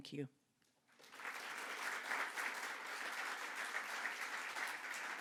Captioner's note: audience clapping